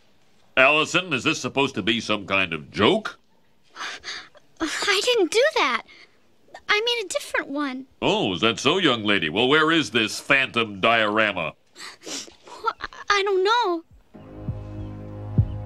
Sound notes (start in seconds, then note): 11.7 sniffles; 14.4 heartbeat thudding